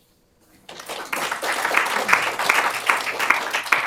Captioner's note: applause